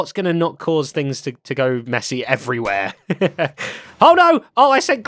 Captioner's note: laughs